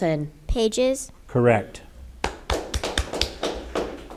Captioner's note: audience applauding